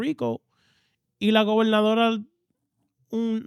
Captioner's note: speaking In Foreign Language